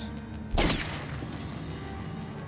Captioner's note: bang